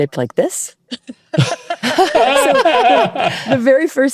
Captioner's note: all laughing